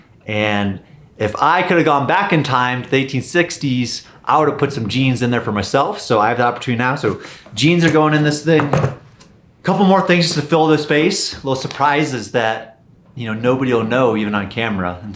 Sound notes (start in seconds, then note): 8.5 banging bucket